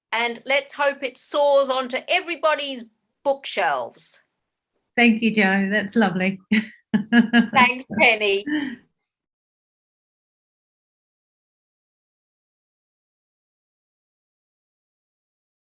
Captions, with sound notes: And let's hope it soars onto everybody's bookshelves. - Thank you Jo, that's lovely. (chuckles) - Thanks Penny.